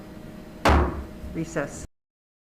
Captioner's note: gavel drops